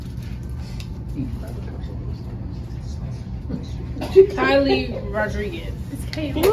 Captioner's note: people chatting indistinctly; clapping and laughing